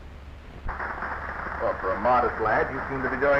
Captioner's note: audience applauding